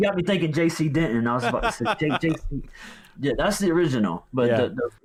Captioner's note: laughs